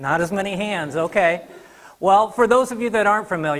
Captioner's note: audience laughing